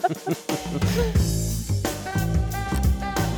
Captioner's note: both laughing; smooth jazz music